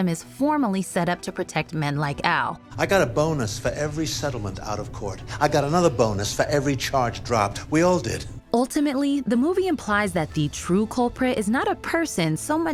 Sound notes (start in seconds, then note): none